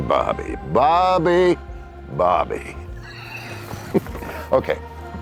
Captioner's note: laughs